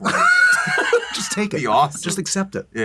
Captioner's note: laughter